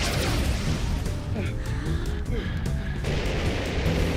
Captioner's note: panting; rockets hissing